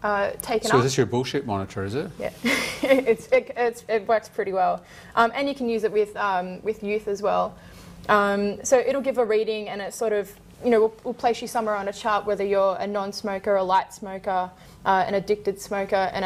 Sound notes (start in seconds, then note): 2.5 chuckles